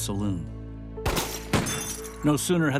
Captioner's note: gunshots